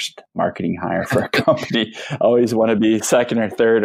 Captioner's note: laughing